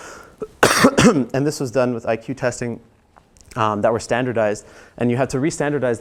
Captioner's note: cough